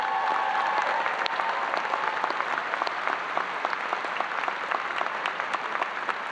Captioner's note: audience applauding and cheering